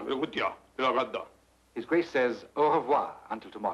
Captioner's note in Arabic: يتحدث لغة أجنبية; الكاهن يتكلم لغة أجنبية